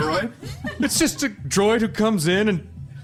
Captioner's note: audience laughter